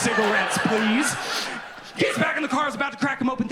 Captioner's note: audience laughing